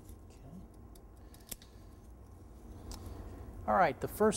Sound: scissors cutting edge banding

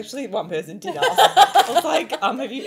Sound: women laughing

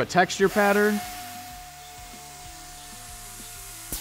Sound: whooshing

